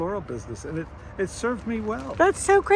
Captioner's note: gravel crunching